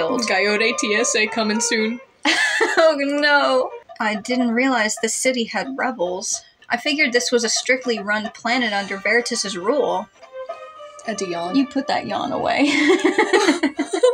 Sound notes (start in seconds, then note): 0.0 laugh; 13.7 laugh